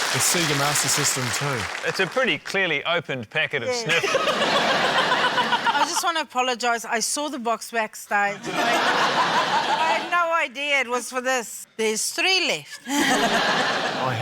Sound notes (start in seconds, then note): 0.0 cheering, applause; 3.8 laughter; 9.1 laughter; 12.8 laughter; 12.8 chuckles